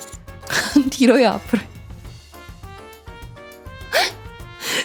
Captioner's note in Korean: 웃음